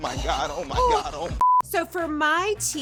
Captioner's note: electronic beeping